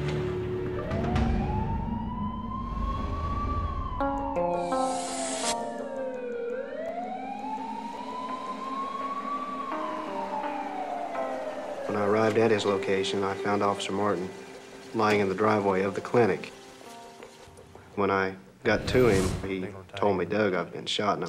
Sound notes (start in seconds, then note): 1.6 sirens blaring